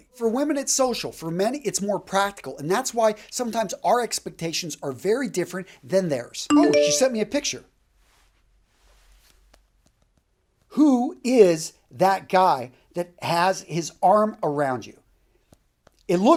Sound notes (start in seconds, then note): 6.5 ring tone